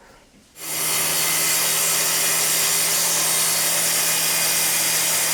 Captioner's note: circular saw whirring